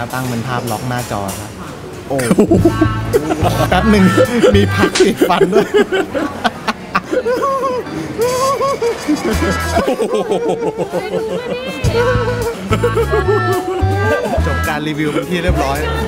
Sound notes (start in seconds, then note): 7.1 an evil laugh